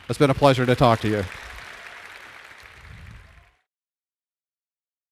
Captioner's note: audience applauds